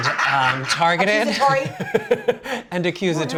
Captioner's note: laughing